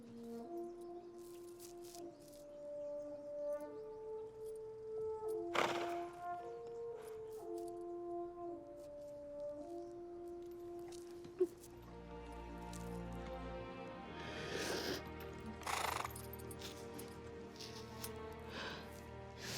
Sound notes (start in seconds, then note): 0.1 somber music; 5.5 horse snorts; 14.4 Debi sniffing